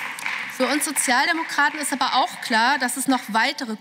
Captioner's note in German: Beifall